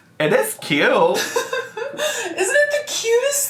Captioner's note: laughs